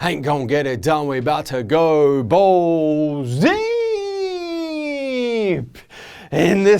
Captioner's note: laughing